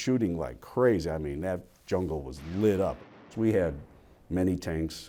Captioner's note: bombs exploding faintly